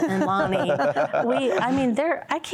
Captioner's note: laughter